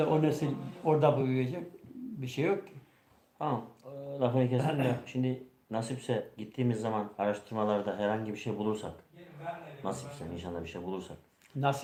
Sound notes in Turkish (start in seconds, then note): 4.6 boğazını temizler